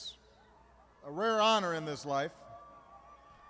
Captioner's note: applause